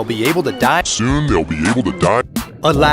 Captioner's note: slow and pitched down